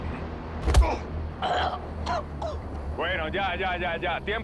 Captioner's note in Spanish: Golpes